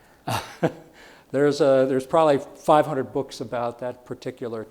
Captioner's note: chuckles